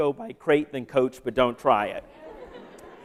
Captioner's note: laughter